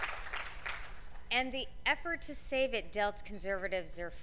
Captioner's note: cheers and applause; applause